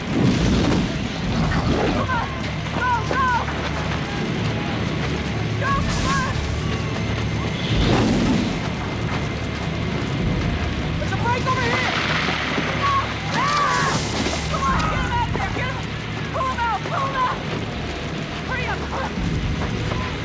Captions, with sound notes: (fire roaring) Come on, go, go! Go, come on! (fire continues roaring) - There's a break over here. (man screams) - Come on, get up. Pull him out, pull him out. Hurry up, come on!